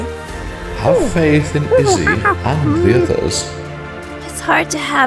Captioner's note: ape noises